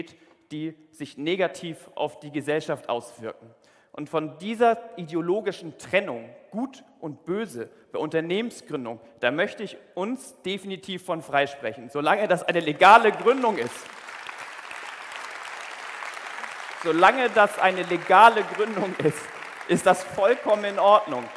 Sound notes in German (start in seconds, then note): 12.8 Applaus